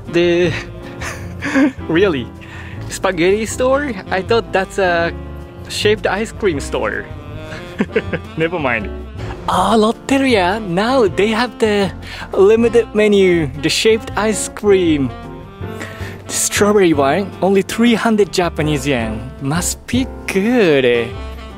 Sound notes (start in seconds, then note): 7.5 chuckles